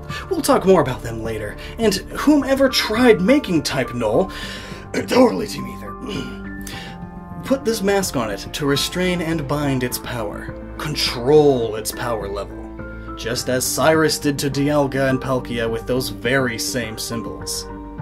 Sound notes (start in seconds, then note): 4.9 fake cough